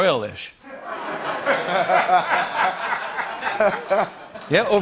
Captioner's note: laughter